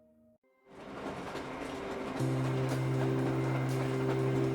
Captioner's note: train rumbling